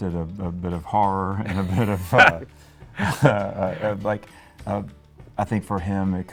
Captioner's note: laughing